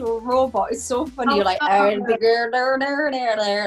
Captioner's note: mimics robot sounds